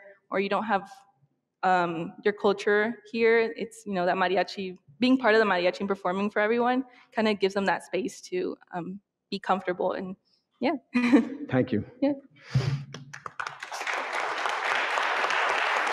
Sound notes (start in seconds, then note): 12.8 audience clapping